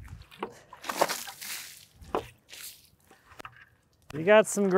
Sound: water splashing

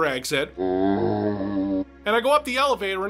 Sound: zombie groan

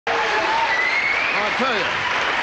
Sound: audience applauding

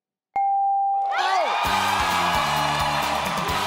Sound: ding; crowd cheering; upbeat music; crowd cheering

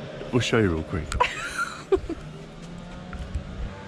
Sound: laughs

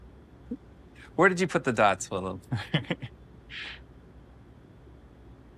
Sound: chuckles

